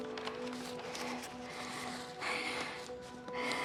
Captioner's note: breathes heavily